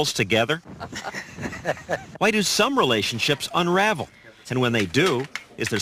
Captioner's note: laugh